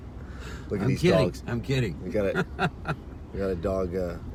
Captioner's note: laughs; laughs